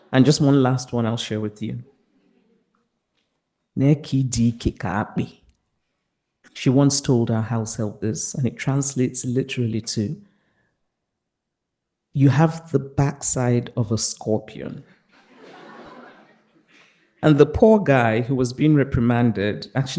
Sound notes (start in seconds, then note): 4.1 Chimamanda speaks in a foreign language; 15.1 participants laughing